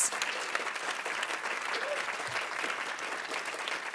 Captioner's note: audience applauding